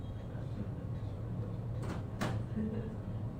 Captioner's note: door opening; door closing